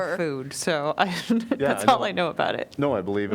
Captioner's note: laughter